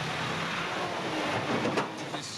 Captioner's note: truck engine revving; truck bumps truck